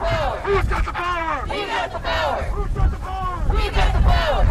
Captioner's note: chanting